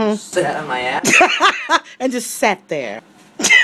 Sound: laughs

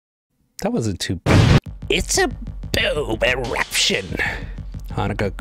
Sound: explosion

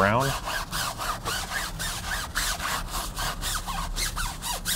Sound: brush squeaking

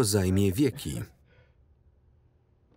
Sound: laughs

